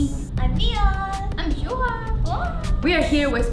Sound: cheers

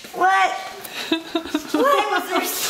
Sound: laughing

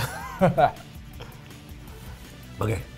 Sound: laughs

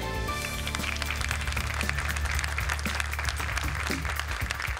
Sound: applause

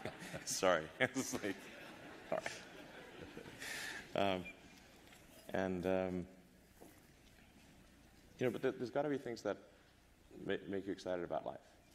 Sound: laughter

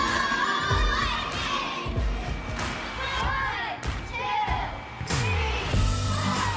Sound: shouting

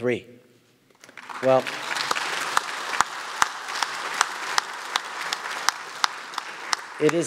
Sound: applause

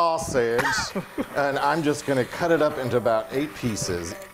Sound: laugh

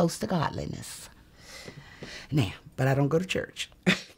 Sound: chuckles

